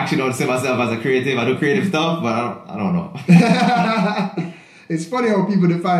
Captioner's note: laughs